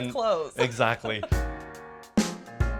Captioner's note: laughs; soft music plays